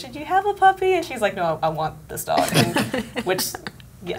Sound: laughing

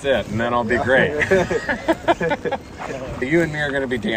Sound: both laugh

